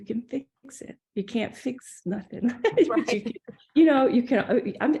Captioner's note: laugh